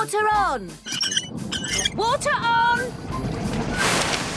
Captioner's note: wheel squeaking